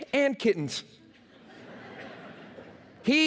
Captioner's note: laughter